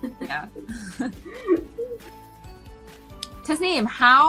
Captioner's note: both laughing